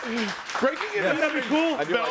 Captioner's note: audience claps